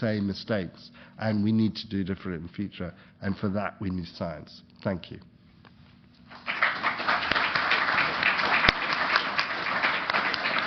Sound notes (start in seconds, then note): 6.2 applause